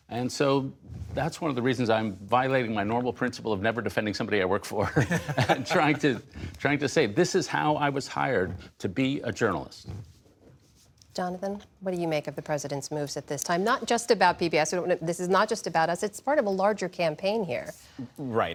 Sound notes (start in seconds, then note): 4.8 laughter